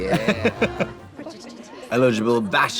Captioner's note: women chattering